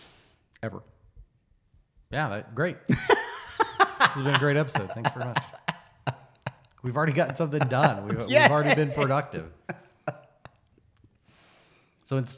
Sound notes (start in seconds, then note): 2.9 laughs; 8.6 laughs